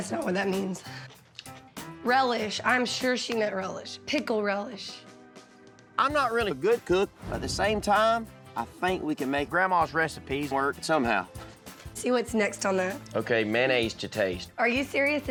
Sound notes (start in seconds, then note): none